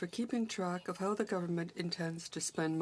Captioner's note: speaking in french